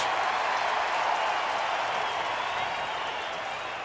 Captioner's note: cheering